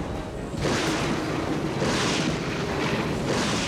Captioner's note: thunder crashing